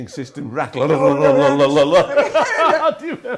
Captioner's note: humming; laughing